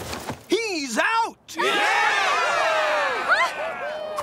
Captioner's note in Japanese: 観客たちの歓声